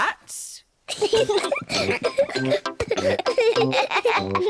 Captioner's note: peppa and george giggle